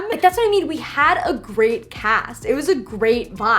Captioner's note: none